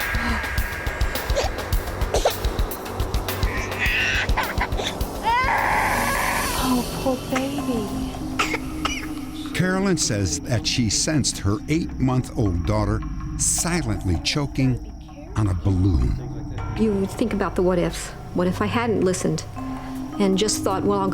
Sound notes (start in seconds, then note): 1.5 gasp; 3.4 crying; 8.3 baby coughing